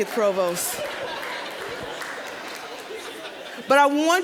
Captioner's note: audience laughing